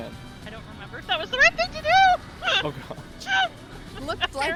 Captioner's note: laughs